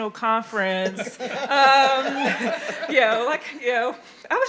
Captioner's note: audience laughing